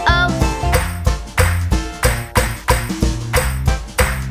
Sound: clap

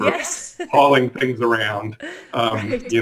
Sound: laughs

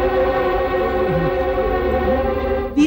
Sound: groans

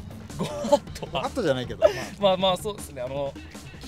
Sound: laughs

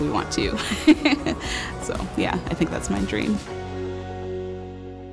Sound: laughter

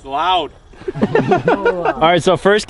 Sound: laughing

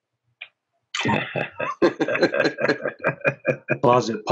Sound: all laughing

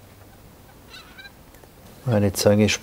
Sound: soft squeaking

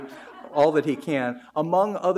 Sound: audience laughs

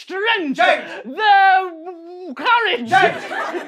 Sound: struggling

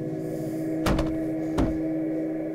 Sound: eerie music; pounding; eerie music

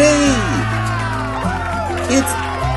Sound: crowd cheering

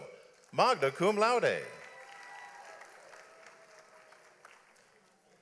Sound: audience applauds

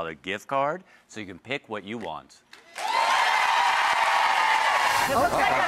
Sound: audience cheers

